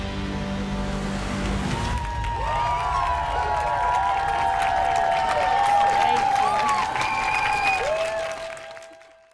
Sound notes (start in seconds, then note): 6.4 applause